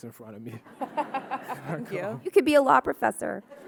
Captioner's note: audience laughing